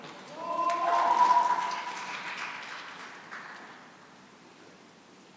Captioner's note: cheering and applause